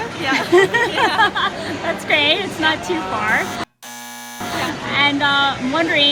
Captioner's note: laughter